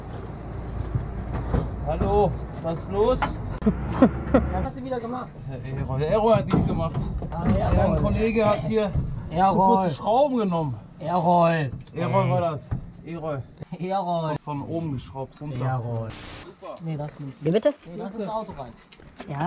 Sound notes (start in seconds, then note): 3.6 giggle